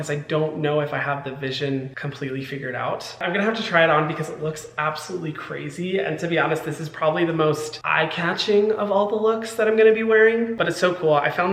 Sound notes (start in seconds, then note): none